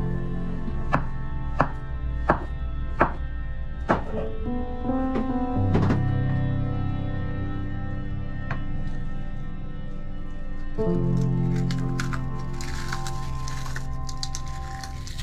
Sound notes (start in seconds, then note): 1.6 knife chopping; 7.5 gentle music continues